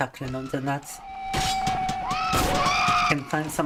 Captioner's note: screaming